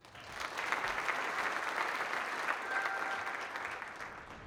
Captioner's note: applause